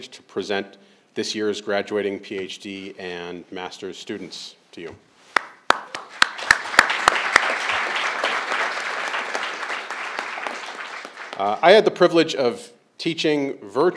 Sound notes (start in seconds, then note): 5.7 crowd applauding